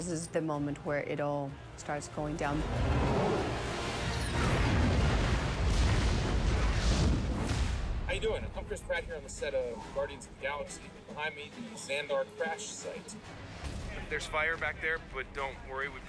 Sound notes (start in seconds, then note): 4.2 crashing